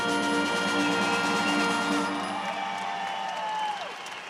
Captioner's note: audience cheering